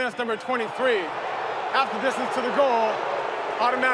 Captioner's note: crowd booing